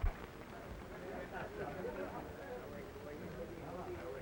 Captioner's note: people chattering